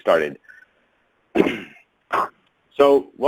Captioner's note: clears throat